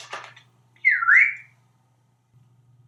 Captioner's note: whistle